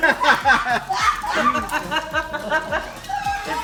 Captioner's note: laughing